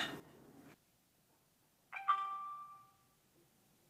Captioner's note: bell ringing